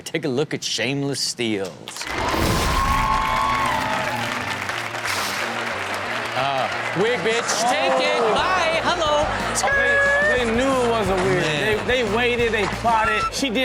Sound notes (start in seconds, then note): 2.5 audience cheers; 2.5 upbeat music